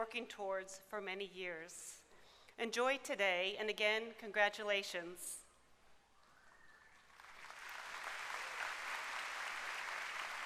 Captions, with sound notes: have been working towards for many years. Enjoy today and, again, congratulations! [applause]